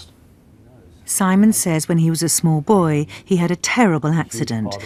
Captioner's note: voiceover